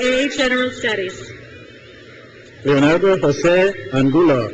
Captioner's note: crowd cheers